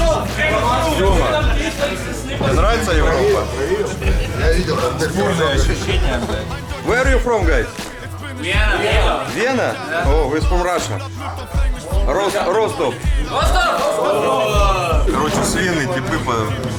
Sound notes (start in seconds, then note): 3.5 generic chatter; 8.1 crowd; 13.2 crowd